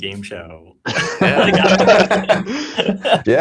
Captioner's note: laughter